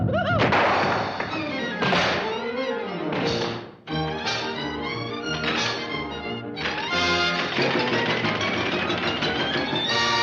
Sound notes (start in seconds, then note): 0.5 door slams; 3.9 bright upbeat music continues; 6.6 doors thudding